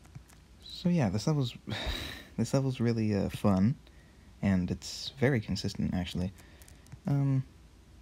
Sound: disappointed sigh

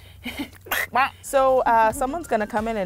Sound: giggles; makes poking sound

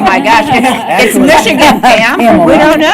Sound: indistinct chatter

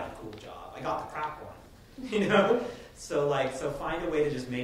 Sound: laughing

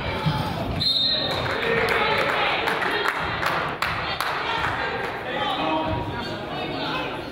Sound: whistle blows; crowd applauds

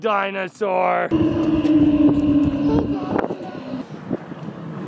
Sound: dinosaur roaring

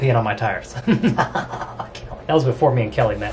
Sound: maniacal laughing

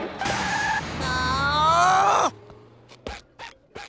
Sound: groaning

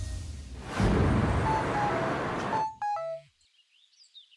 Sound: phone rings

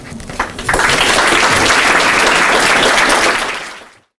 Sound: applause

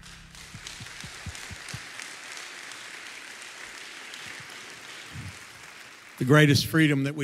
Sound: crowd clapping

